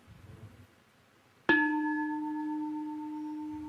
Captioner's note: bell